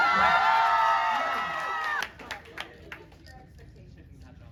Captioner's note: crowd cheers